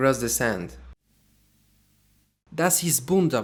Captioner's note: in german